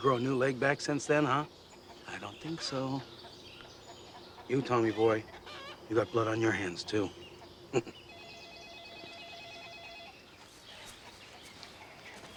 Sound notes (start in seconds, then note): 0.0 laughs; 7.6 chuckles; 8.0 telephone ringing